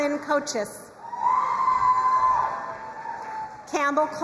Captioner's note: crowd cheering and applauding